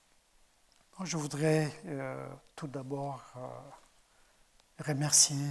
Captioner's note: speaking in French